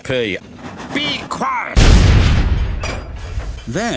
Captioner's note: explosion